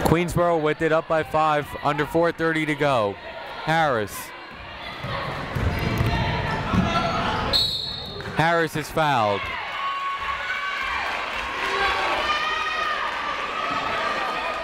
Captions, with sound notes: Queensborough with it, up by five. Under 4:30 to go. Harris. (people shouting in the crowd) (whistle tweeting) Harris is fouled. (people cheering in the crowd)